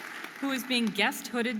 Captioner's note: audience applauding and cheering